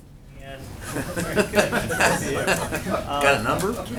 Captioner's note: laughter